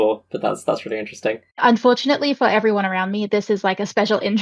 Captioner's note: laughing